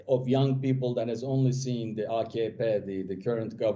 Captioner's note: foreign language